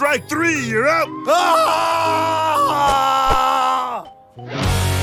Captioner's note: Birchum screams